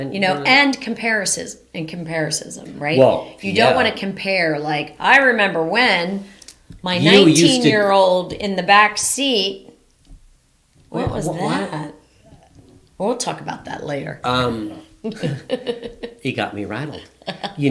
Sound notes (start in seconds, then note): 14.3 laughs